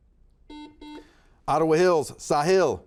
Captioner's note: buzzer buzzes